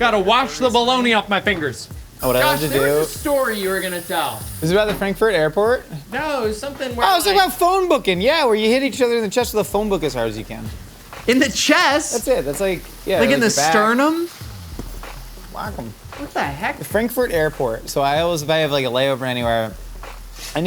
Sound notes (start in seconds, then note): 1.6 water streaming